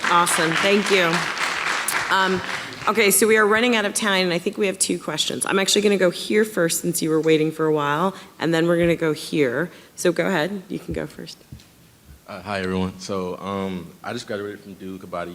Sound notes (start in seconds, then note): 0.0 audience clapping